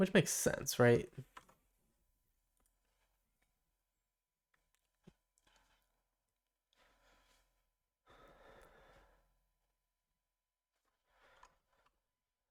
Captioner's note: silence